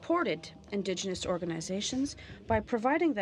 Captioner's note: speaking French